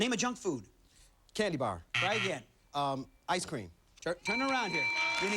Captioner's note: buzzer